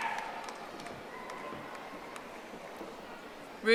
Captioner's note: audience applauding